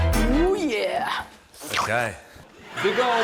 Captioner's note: slurps